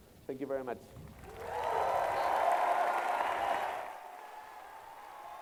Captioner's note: applause